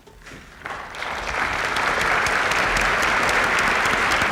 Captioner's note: applause